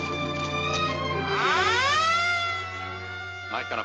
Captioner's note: police siren wailing